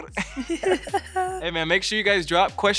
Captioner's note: both chuckling